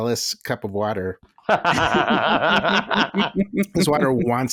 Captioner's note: laughter